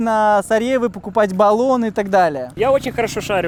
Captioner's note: tires